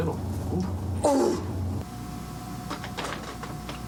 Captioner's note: Liz grunts